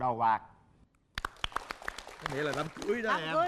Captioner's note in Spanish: Aplauso